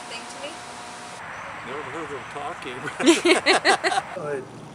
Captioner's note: laughter